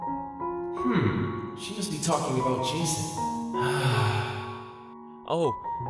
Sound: sigh

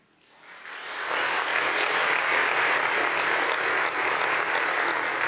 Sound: audience applauding

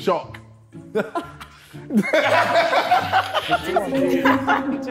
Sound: all laughing

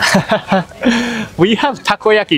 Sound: chuckles

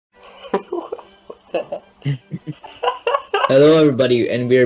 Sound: giggling

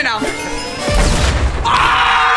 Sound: büm

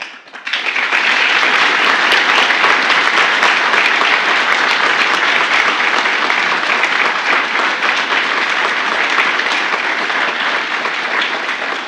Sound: applause

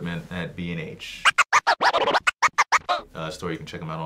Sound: record scratching

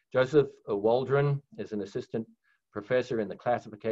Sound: none

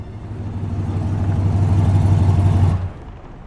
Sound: car driving up and idling to a stop

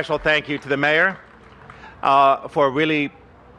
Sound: applause

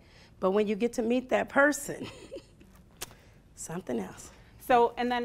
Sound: laughing

